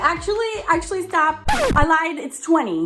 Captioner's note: record scratches